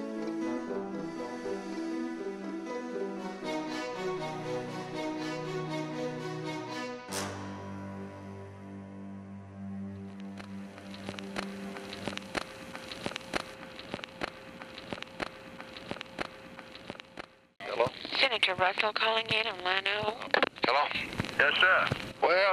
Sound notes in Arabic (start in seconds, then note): 0.0 تستمر موسيقى البيانو المتوترة; 4.3 موسيقى البيانو التأملية; 12.0 تسجيل أزيز ثابت